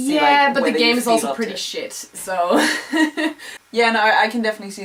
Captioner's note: laugh